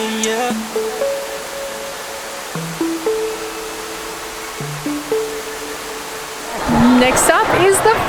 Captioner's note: lovely waterfall noise :>